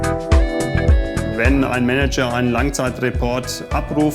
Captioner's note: non-english speech